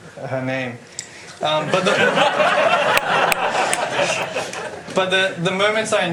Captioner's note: laughter